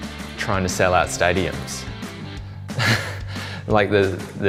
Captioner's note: chuckles